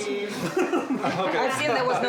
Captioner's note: laugh